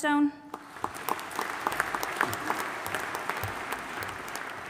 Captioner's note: audience applauding